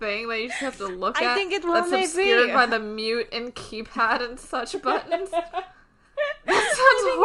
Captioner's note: laughing